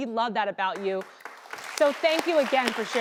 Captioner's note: applause